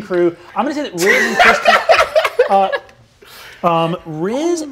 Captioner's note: laughing